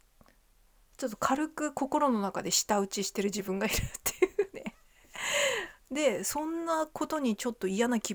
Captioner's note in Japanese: 笑い